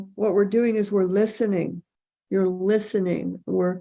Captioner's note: none